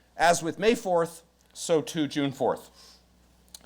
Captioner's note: none